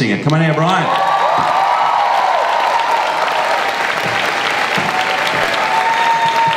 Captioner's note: audience cheers and applauds